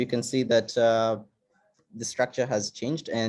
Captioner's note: none